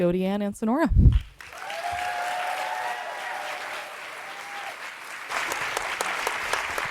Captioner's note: audience cheering and applauding